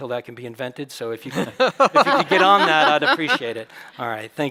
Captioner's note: chuckles